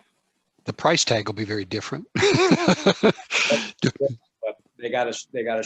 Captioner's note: laughs